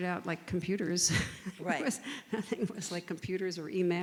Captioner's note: laughs